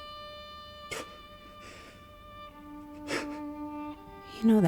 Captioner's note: Ronnie gasps